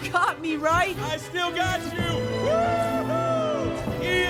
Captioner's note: shouting